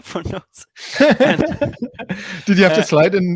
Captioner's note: laugh